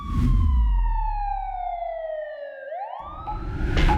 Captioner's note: siren wailing